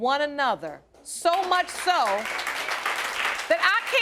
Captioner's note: crowd applauding